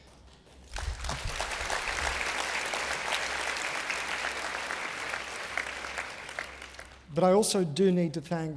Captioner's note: applause